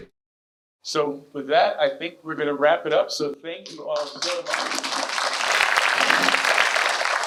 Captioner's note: clapping